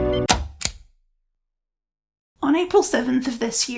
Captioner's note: click